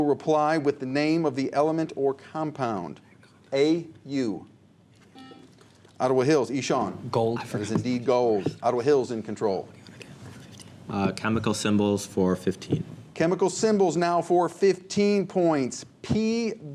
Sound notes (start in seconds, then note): 5.5 buzzer; 10.0 whispers